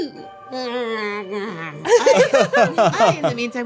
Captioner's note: everyone laughing; woman gurgling